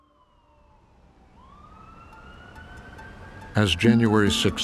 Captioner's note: siren wailing